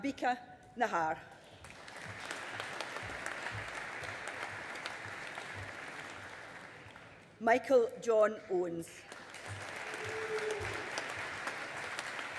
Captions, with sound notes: Ambika Nahar. (AUDIENCE APPLAUDING) Michael John Owens. (AUDIENCE APPLAUDING)